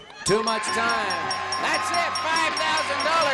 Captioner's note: chuckling; beeps